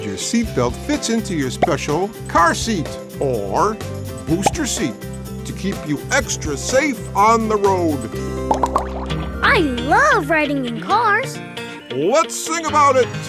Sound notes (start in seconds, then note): none